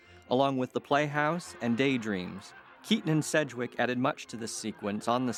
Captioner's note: audience laughs